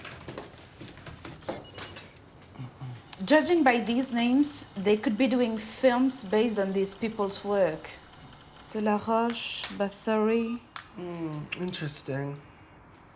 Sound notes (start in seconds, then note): 1.0 computer beeps